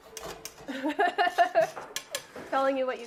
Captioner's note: laughing